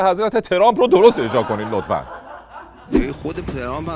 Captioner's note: laughter